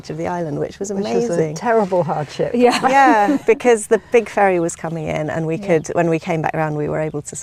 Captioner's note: laughing